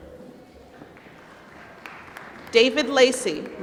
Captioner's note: applause